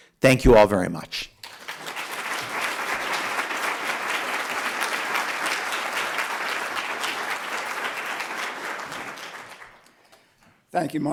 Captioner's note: applause